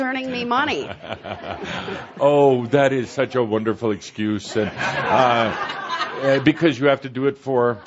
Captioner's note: chuckling; laughter